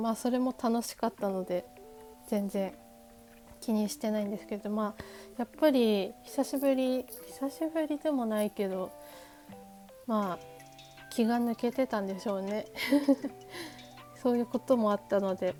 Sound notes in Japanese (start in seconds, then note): 12.7 笑い